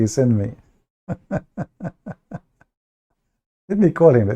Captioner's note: Ketawa